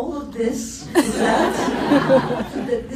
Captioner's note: laughs